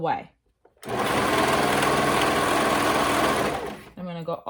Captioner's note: machine whirring